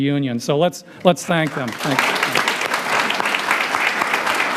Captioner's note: applause